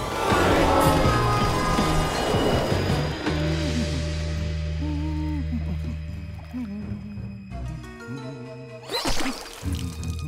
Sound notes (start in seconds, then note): 2.9 humming